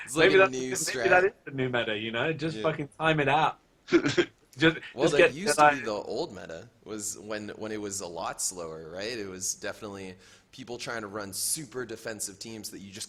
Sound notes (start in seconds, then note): 3.9 laughs